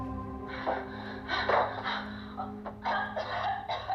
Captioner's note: Aleks coughs